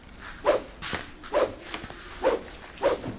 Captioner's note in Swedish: wooshing